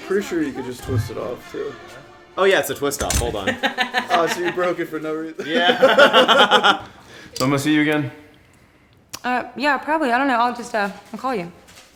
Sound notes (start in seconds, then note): 3.6 laughs; 6.8 laughs